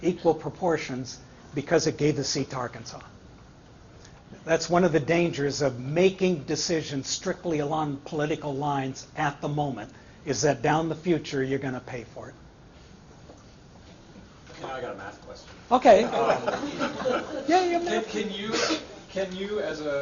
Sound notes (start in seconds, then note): 16.0 laughter